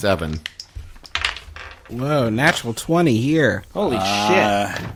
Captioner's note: dice roll